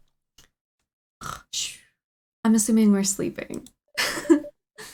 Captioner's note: snores